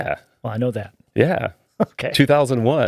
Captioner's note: laughing